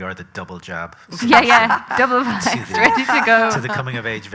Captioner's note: loud laughter